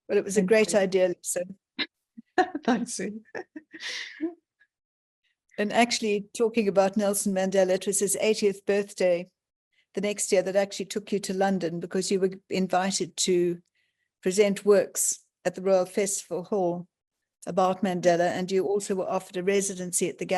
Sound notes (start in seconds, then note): 3.2 laughing